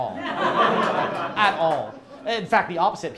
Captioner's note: crowd laughs